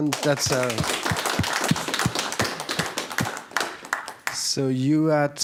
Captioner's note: audience applause